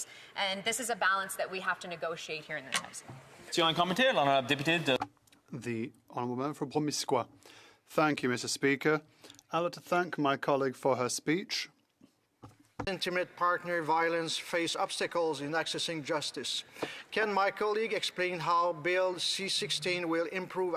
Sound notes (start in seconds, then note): 9.7 speaking French